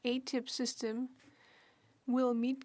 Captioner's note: speaking French